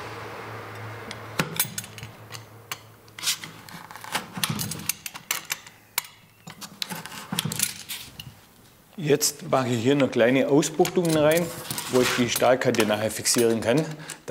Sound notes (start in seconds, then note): 1.3 soft rattling